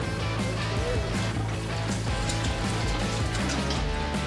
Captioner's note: water sloshing